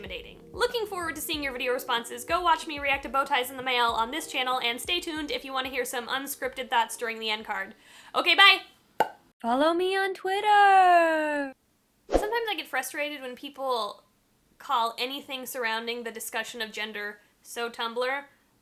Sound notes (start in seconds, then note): 9.0 pop; 9.1 distorted voice; 12.1 woosh